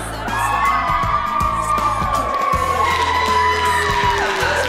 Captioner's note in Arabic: الجميع يهتف